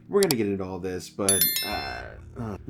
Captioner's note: ding